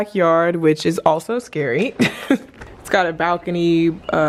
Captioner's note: laughs